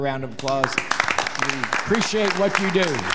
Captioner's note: audience applauding